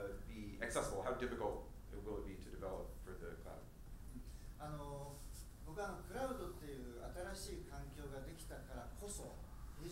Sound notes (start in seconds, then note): 5.2 speaking in foreign language